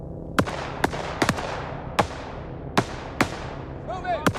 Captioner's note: shots firing